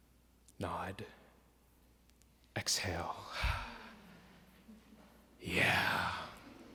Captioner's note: exhales; audience laughs